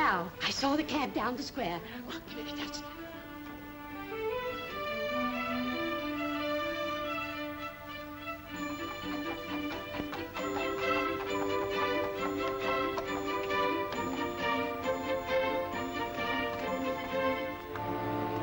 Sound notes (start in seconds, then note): 2.8 upbeat music; 8.4 hooves trotting softly; 8.4 upbeat music; 17.7 ominous music